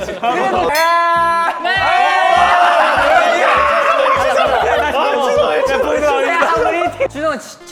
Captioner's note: roaring all by himself